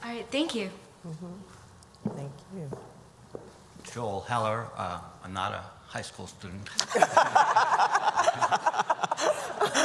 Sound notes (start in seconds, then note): 6.8 laughter